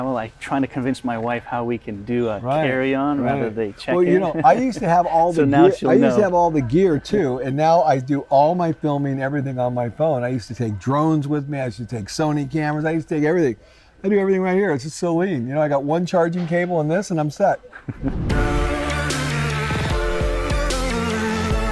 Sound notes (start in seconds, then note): 17.6 laughs; 18.3 techno music